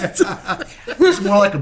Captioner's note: laughing